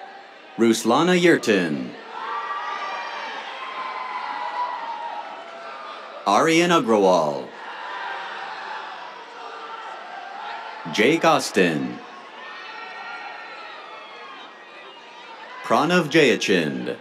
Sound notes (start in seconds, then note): 2.0 cheers, applause; 7.4 cheers; 12.0 cheers; 16.8 cheers